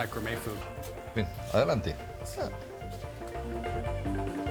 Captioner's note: speaking Spanish